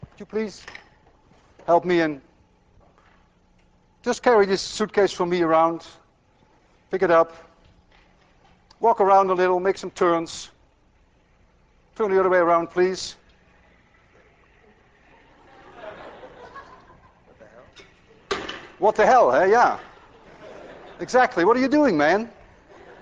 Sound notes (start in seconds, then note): 15.2 laughter